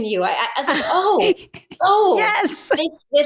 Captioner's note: laughs